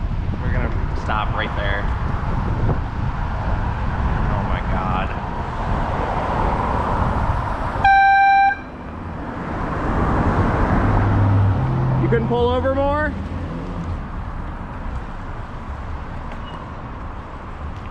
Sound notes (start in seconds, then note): 7.8 airhorn